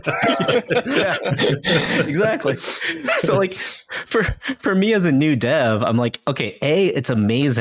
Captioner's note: laughing